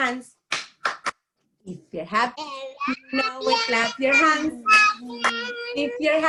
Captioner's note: claps; claps